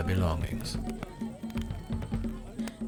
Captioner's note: distant crying